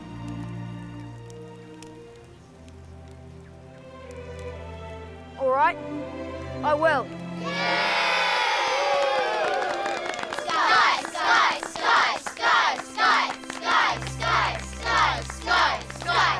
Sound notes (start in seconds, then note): 0.0 gentle orchestra music; 7.5 crowd cheers